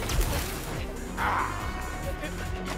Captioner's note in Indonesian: mengerang